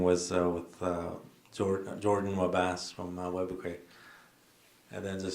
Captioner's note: foreign words